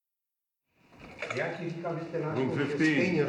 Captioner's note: man speaking hebrew